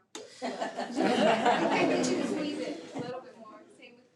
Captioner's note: audience laughing